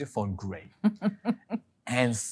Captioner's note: laughing